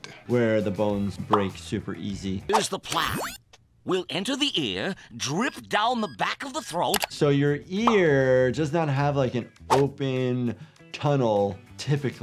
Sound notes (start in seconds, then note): 3.0 button beeps